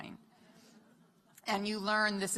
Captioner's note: laughter